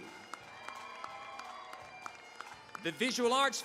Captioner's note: cheering, applause